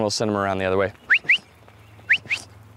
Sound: whistle

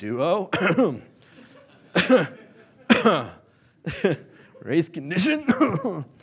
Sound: coughs

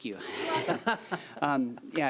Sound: people laughing

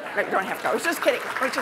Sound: applause

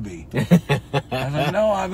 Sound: laughs

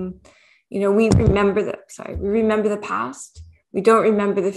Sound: mic thuds

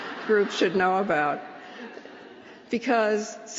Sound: laughter

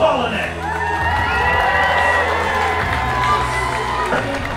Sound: audience cheers

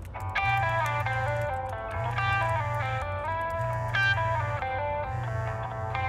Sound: phone ringing

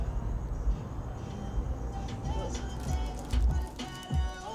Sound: radio playing

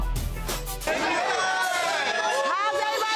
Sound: dramatic violin, electronic music; attendees shouting, cheering

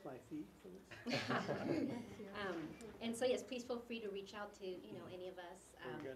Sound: laugh

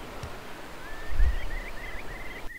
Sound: sound of waves and a curlew calling

